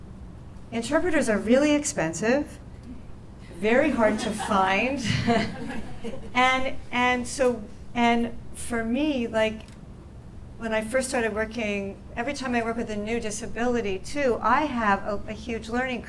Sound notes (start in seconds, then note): 7.3 laughs